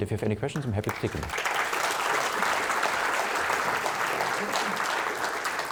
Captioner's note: audience applauding